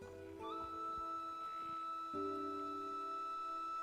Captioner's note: none